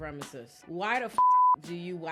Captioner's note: beep